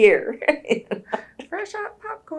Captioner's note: laughs